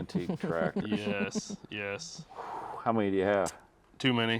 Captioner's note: chuckling